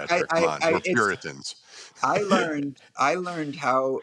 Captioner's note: chuckling